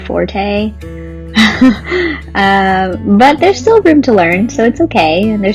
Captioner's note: laughs